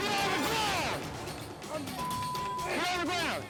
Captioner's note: beep